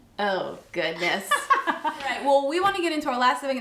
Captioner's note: laughs